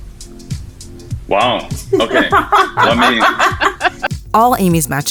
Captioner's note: laughs